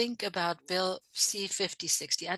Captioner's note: speaking French